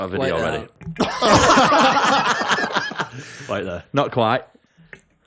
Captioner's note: laughter